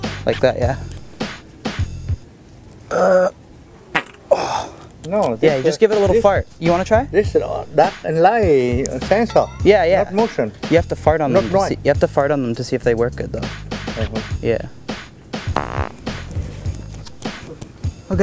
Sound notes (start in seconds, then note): 2.9 grunt; 3.9 fart noise; 15.5 fart noise